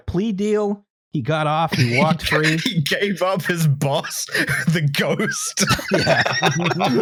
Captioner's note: laughing; laughter